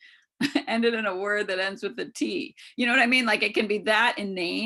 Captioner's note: chuckles